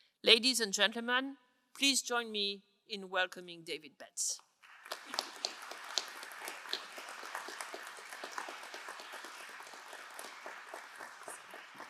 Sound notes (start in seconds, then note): 4.6 crowd applauding